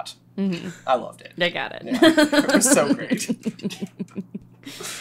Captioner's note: laughs